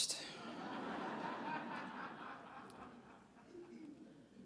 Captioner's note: audience laughs